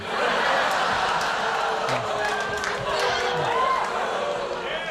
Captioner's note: audience booing